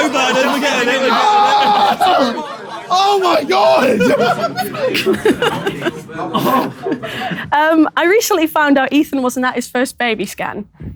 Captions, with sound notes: - A slow burn, we get it. [shouting] - Oh my god! - F*ck. [chuckles] I recently found out Ethan wasn't at his first baby scan.